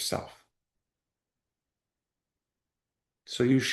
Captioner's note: pause